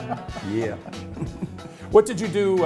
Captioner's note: laughing